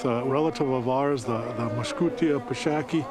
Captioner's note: person speaking in foreign language